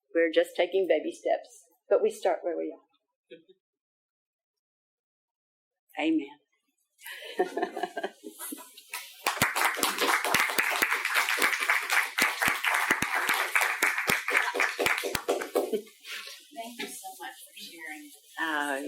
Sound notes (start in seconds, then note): 7.1 laughing; 8.8 audience applauding